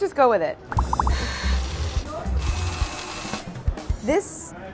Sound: mixers whirring

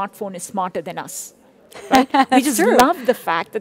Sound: laughs

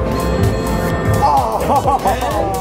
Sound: bell dinging

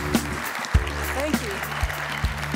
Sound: applause

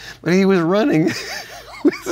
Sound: laughs

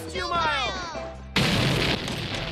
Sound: explosion

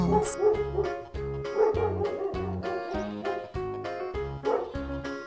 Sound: dogs barking

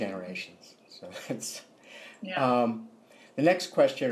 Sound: laughter

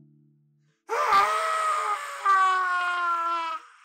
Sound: screaming

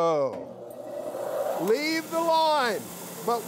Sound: machinery buzzes

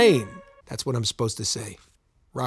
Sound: quietly

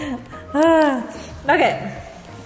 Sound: sighs

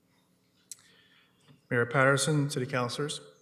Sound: whispering

